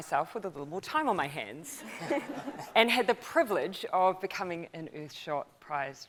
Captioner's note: laughs